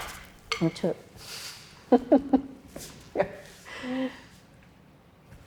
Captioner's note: drum beating continues; laughs